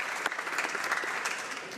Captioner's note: applause